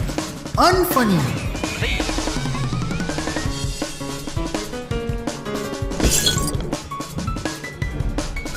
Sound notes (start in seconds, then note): 6.0 breaks bottle full